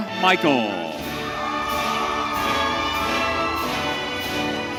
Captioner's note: audience cheering